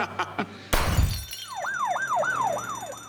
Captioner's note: laughter; siren blaring